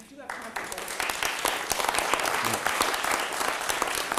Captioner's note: audience clapping